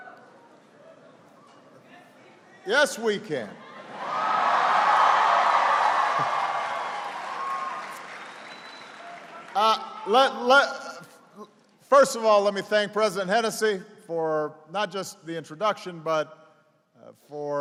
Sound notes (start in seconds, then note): 8.6 applause